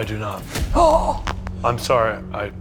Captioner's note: gasping